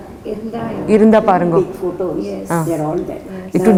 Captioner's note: in Tamil